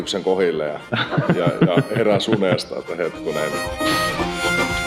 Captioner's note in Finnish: naurua